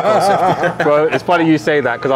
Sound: laughing

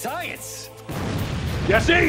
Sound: explosion

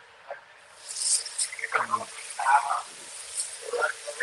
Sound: meat sizzling

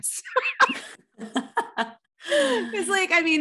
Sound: both laughing

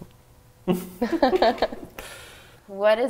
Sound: laughing

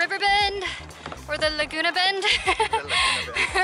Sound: laughs

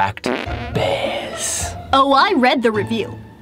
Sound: farts

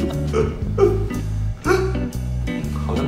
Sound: fake cry

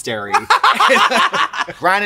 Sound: both laugh

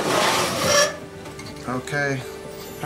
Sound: metal scraping

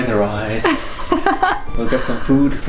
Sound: laughing

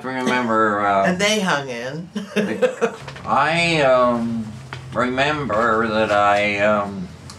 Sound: laughs

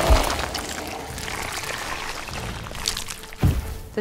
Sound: hermit makes shuddering noise

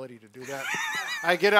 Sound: laughs

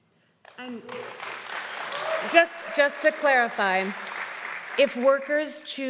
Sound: audience applauding

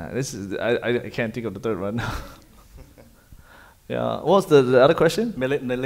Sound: chuckles

